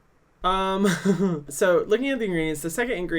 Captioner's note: laughs